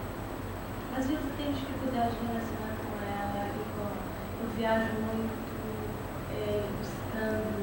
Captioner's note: speaking Portuguese